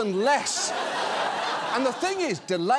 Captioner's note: audience laughs